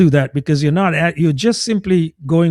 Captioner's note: uh